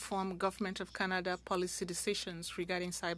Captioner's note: speaking French